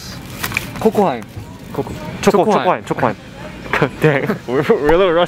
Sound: speaking Korean

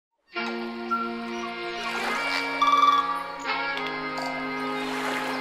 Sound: jazzy music; animal sounds

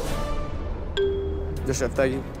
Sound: bell dings

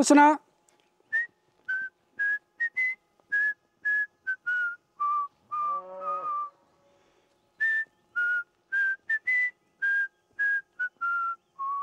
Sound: whistles

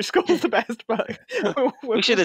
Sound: laughs

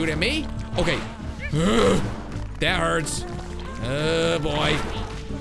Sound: growls

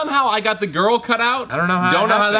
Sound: none

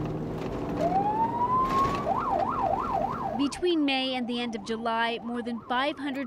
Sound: sirens

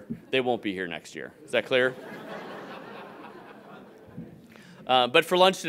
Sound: audience laughing

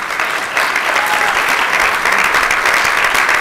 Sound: applause

